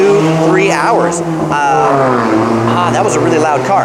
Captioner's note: loud car